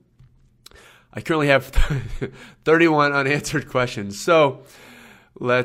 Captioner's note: laughs